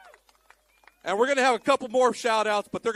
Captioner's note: applause